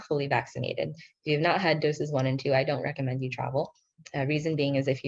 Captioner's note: speaking in foreign language